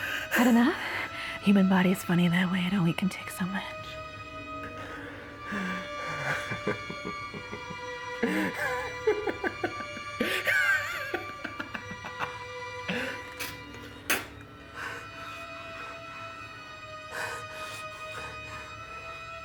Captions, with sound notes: - Had enough? Human body's funny that way. It only can take so much. (Aladdin laughs) (Aladdin spits)